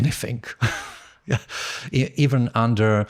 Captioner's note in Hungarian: nevetés